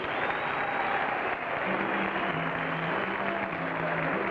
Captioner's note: audience cheers